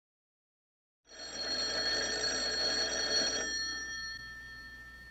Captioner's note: ringing